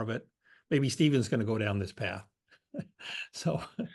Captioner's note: laugh